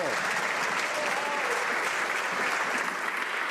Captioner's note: some Applause